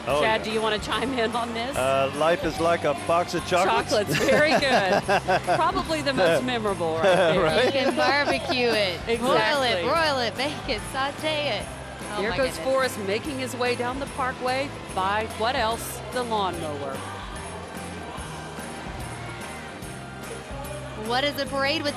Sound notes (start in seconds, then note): 3.8 laughing; 15.6 holiday music